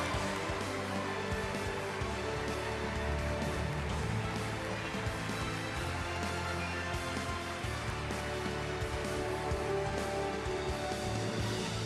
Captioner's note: applause